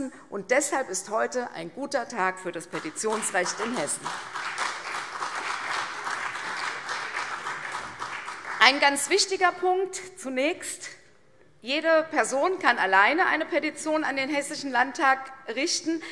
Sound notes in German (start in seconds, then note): 2.7 Beifall CDU, BÜNDNIS 90/DIE GRÜNEN, SPD und Freie Demokraten